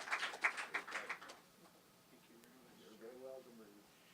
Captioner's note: chatter